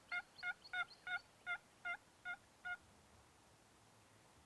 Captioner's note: turkey calls